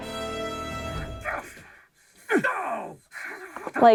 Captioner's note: Troy Baker grunting as Indiana Jones